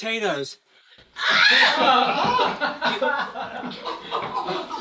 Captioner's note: scream; laughter